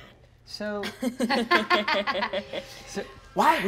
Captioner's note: all laugh; mesmerizing music